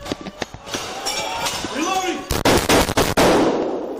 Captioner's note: gunshots firing